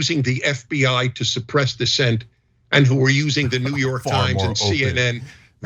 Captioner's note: laugh